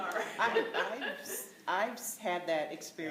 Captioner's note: laughter